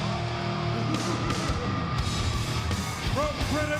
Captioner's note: singer chuckles